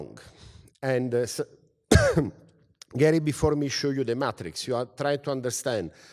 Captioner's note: cough